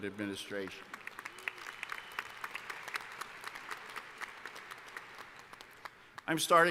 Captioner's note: applause